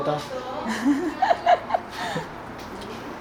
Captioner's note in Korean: 킁킁